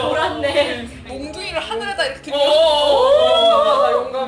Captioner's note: agreeing sound